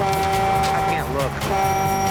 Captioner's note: horn blares